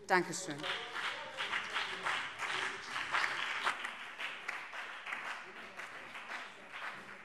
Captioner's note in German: Beifall BÜNDNIS 90/DIE GRÜNEN und CDU